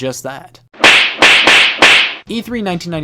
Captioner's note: slapping sound effects play